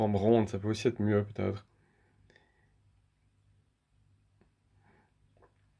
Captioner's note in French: petit silence dû au doublage